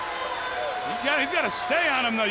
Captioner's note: crowd cheering